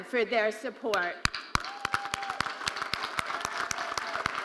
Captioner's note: all applauding